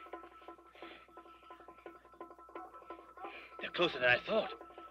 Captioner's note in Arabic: نباح الكلاب